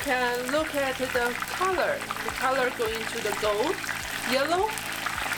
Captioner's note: frying oil